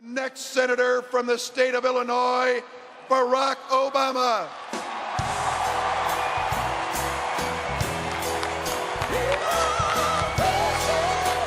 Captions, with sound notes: - Next senator from the state of Illinois, Barack Obama. (upbeat soul music) (crowd cheers and claps)